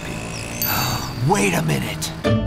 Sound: gasps

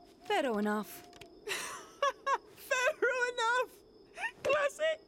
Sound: chuckling

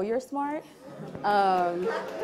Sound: audience laughing

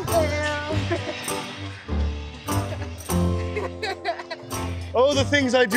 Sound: laughing

